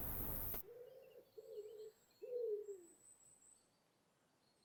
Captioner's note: owl hooting